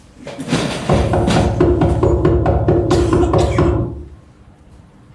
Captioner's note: knocking sound